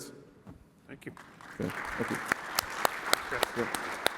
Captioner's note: applause